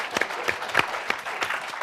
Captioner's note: applause